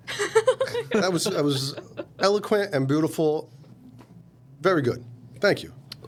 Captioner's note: laughing